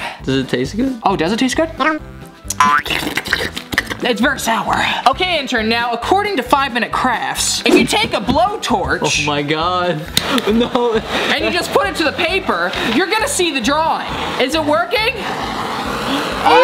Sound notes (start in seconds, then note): 2.5 tongue licking; 2.6 boing